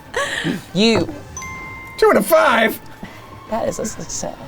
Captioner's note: bell dings